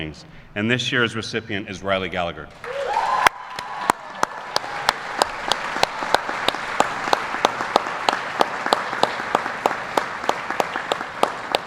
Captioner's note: applause